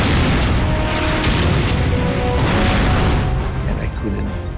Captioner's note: explosions booming